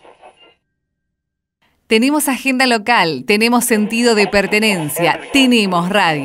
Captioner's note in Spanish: Voz en off